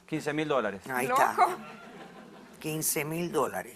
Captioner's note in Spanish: risas